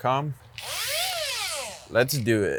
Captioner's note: machine whirring